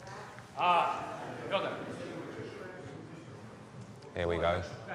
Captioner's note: speaking in foreign language